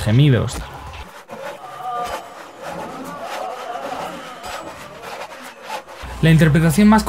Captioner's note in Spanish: Gemidos